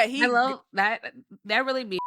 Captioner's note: beep